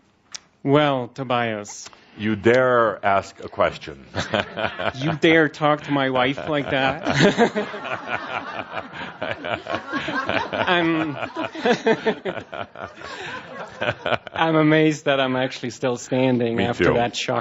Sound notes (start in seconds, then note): 4.1 chuckling; 5.7 and audience laughs